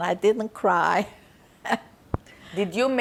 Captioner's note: laughing